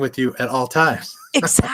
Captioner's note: chuckles